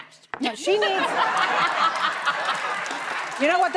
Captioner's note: audience laughing